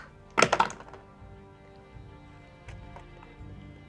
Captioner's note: dice roll